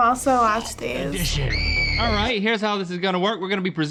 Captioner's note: girl shrieking